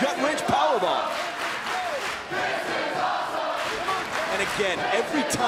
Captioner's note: crowd cheering